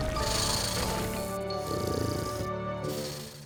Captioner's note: hissing; snoring